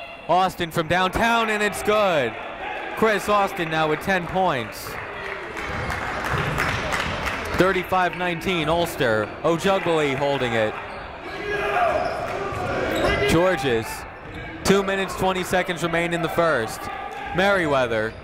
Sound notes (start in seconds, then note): 5.2 clapping; 11.9 shouting